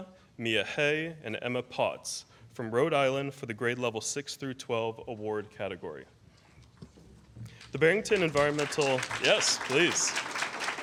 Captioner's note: applause